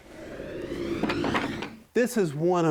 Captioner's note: whooshing